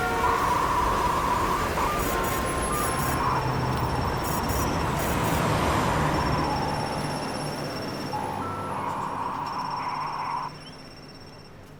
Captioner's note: loud traffic sounds